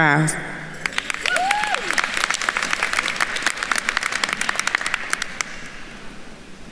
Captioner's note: attendees cheering and applauding